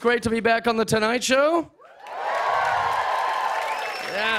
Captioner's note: cheers and applause